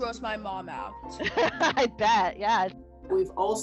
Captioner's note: laughs